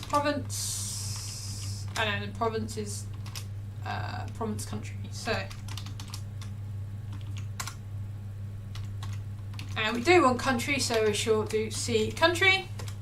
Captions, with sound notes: province, I know provinces, province country so, (keyboard clicking) we do want country so we're sure due to see country.